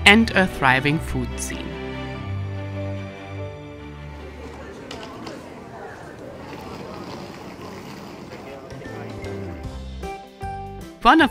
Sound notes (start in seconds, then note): 4.7 voices murmuring; 8.9 lively music